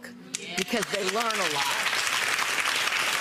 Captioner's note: audience applause